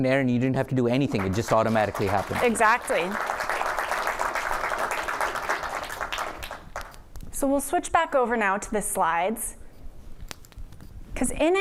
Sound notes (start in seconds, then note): 3.0 applause